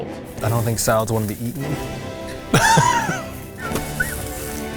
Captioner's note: laughs